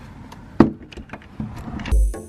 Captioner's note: door opening